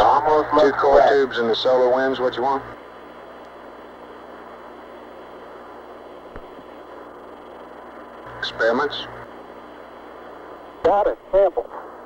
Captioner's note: mission Control Audio